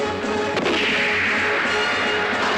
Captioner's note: gunshot; yelling